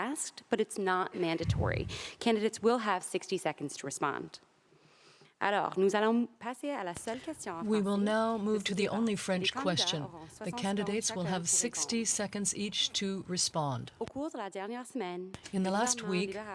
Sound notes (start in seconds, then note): 13.0 speaking French